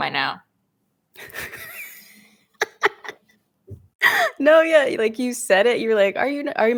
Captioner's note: laughs